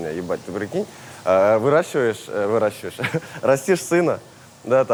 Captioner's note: chuckles